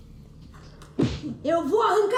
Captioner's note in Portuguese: barulho de soco